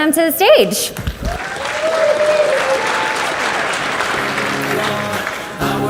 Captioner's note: audience cheers and applauds